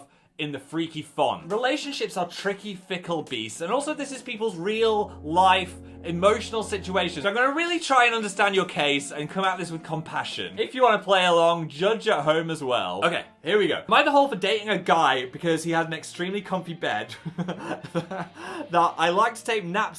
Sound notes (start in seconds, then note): 17.1 host laughs